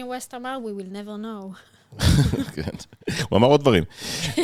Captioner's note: laughs